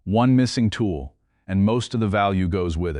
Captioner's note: serious tone